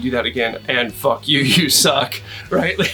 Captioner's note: laughs